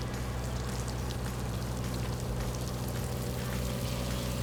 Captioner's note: water splashing